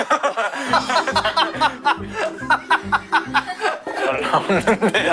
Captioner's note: uncontrollable laughter for some reason